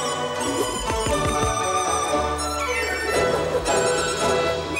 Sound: whizzing and slicing

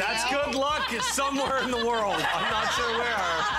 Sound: laughter

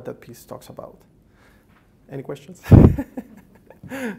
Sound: laughs

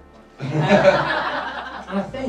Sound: crowd laughs

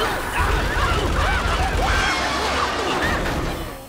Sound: screaming

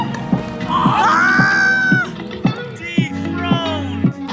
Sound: shouting

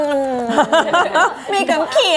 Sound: laughs

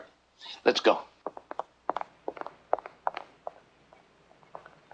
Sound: footsteps receding

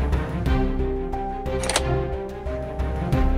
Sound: door opens

